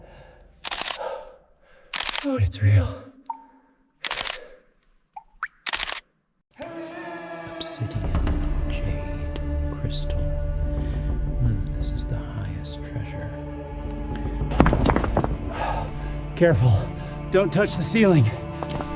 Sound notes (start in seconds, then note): 1.2 camera clicks; 4.8 dripping sounds; 14.4 rock thuds